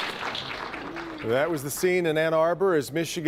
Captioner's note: applause